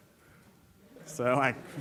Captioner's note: audience laughs